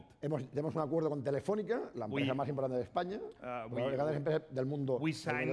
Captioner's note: speaking spanish